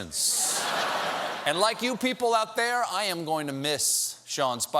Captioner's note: laughter